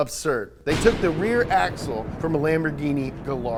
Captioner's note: thunder